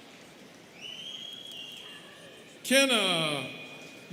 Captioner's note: students whistling